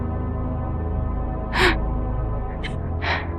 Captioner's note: gasping